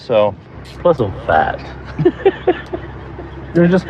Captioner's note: laughs